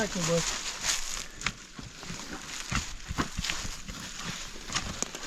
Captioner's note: leaves crunching